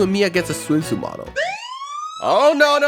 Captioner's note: police sirens